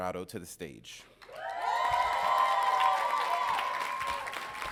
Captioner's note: audience cheering